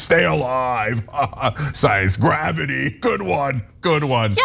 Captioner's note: laugh